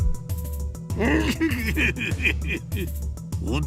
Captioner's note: evil laugh